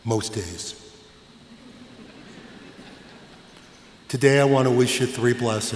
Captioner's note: laughter